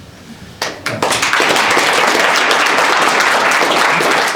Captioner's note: applause